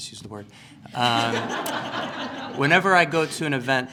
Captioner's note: laughter